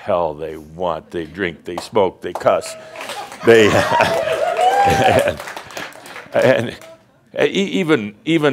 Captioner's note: audience laughter and cheers